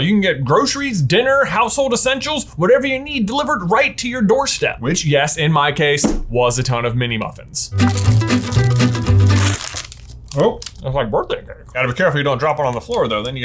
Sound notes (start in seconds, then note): 7.7 upbeat music; 7.8 package rips